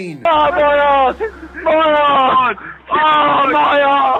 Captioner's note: laughing